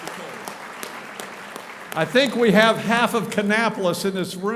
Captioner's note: applauding